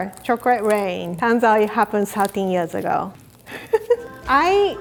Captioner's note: laughing